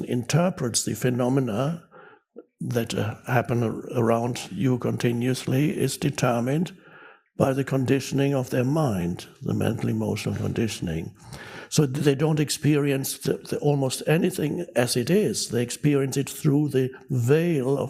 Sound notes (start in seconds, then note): none